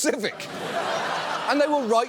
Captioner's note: audience laughs